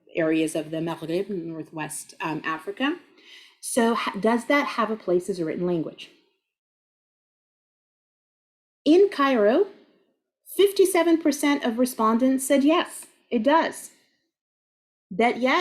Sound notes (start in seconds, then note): 0.7 speaking Arabic